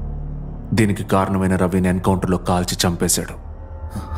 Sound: none

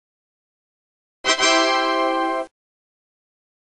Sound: Microsoft Windows 3.1 Startup Sound Plays

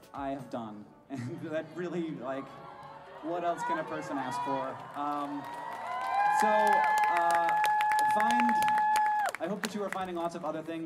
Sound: audience cheer

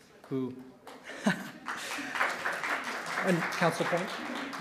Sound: audience clapping

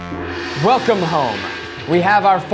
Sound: gong sounds

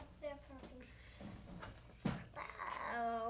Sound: thud

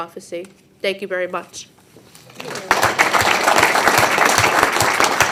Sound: audience applauding

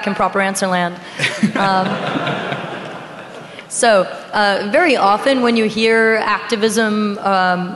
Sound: laughing

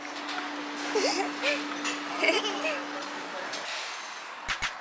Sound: hehe~ Hehehe~

